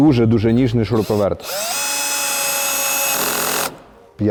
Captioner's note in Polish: dźwięk wkrętarki